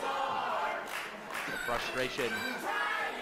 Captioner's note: crowd; fans clapping